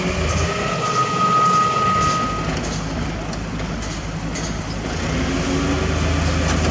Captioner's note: pump Rumble